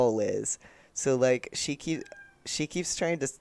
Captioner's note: meow